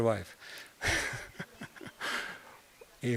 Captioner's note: laugh